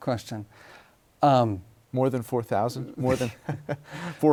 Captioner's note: laughs